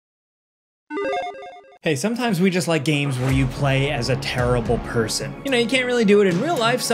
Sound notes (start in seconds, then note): 1.3 intro sound effect; 3.0 dramatic music